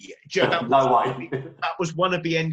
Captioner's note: laughs